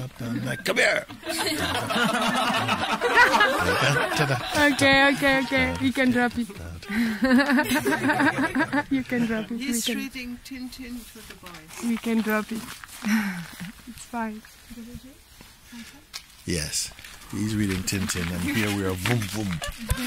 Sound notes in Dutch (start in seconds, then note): 6.9 gelach